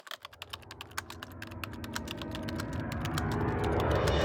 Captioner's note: typing